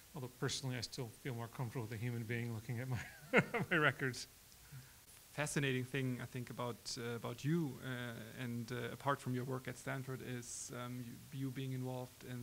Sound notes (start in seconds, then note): 3.0 laughs